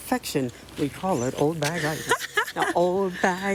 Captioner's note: laughs